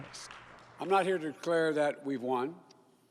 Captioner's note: cheers and Applause